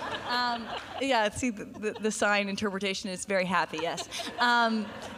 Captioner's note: laughter